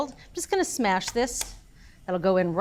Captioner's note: knife tapping